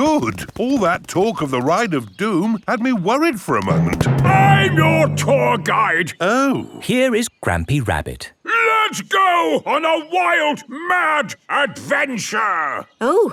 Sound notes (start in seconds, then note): none